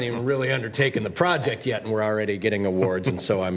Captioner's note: laughter